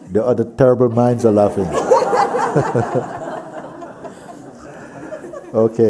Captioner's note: laughter